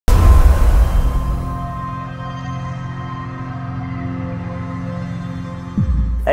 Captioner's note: sound effects